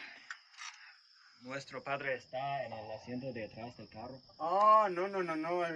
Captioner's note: foreign language